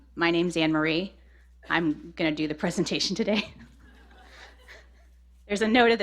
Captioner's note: laughter